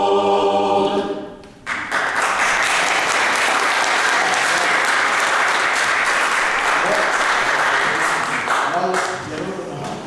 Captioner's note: applause